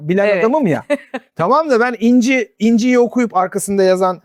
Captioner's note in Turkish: kahkaha